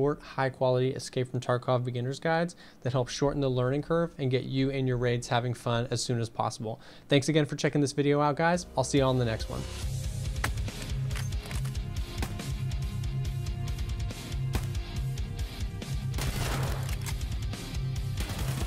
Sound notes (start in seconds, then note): 10.3 intense music; 11.7 rifles firing